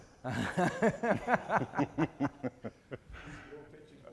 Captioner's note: laughing